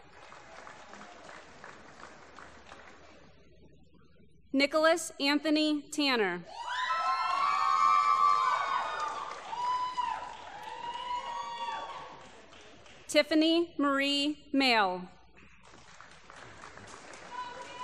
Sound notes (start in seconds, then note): 0.0 applause; 6.5 cheering; 15.6 applause